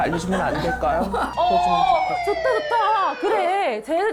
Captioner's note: siren blaring